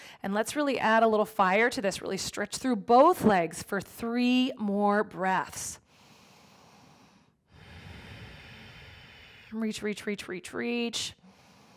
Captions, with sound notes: And let's really add a little fire to this really stretch through both legs for three more breaths. (exhales deeply) Reach, reach, reach, reach, reach.